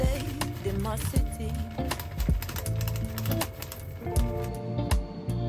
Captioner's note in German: Rattling